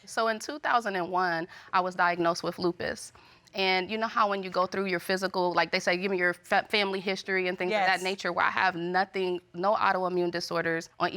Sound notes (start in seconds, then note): none